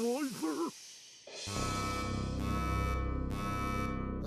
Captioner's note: beeping